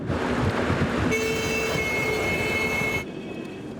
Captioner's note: horns blaring